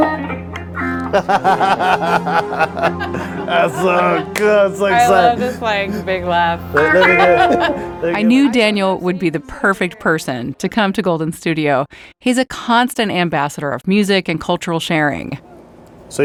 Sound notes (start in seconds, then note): 1.5 group laughing; 6.8 laughs